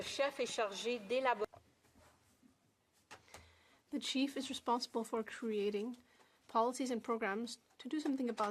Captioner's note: speaking French